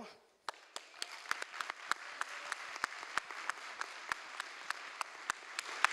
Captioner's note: applause